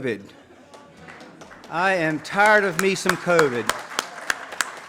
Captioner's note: audience claps